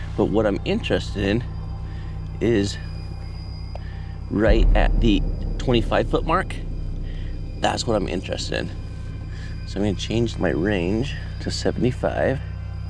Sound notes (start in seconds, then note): none